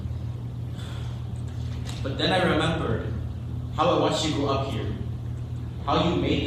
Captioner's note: sighs